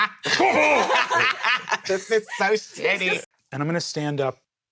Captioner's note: laughs evilly; still laughing